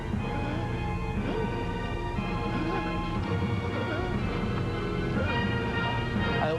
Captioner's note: gasping desperately